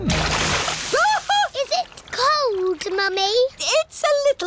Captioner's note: shrieks